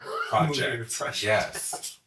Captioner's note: mutters